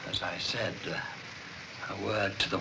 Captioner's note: none